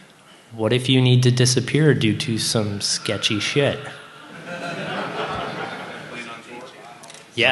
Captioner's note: laughter